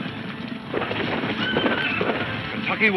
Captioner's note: horse neighing